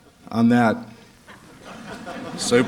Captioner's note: laughter